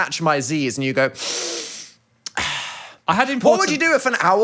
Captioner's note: exhales